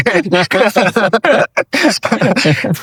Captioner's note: laughter